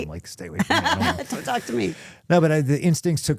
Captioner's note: laughs